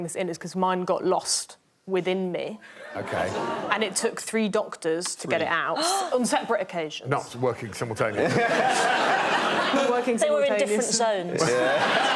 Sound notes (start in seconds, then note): 5.7 Maisie gasps; 8.1 laughter